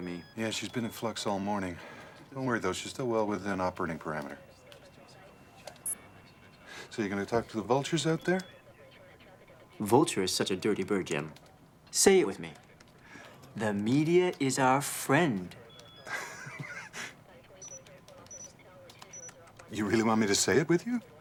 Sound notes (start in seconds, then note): 17.5 bird honk